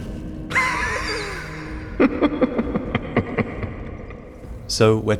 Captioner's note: breathy Cackle